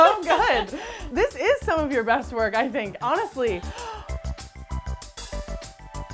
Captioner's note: laughing; gasping; cheerful music continues